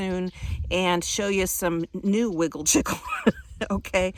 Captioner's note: laughing